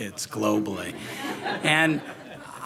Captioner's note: audience laughing